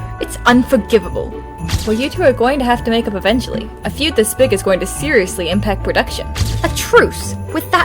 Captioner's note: camera flash